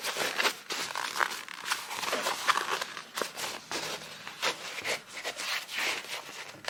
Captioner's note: material continues to ruffle